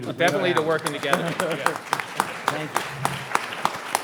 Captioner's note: laughing; all applauding